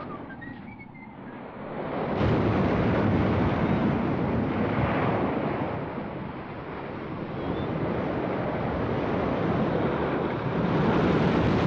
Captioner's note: henchman whistles; wind howling & waves crashing